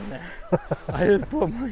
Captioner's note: laughing